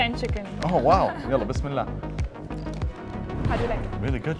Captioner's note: laughs